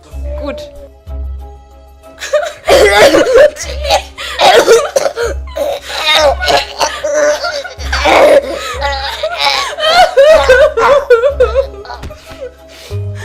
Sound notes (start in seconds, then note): 2.8 sounds of suffocation; 4.7 cries